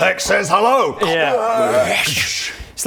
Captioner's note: crrwaargh